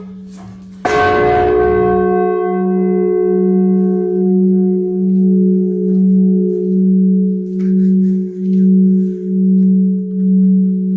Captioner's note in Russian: звук колокола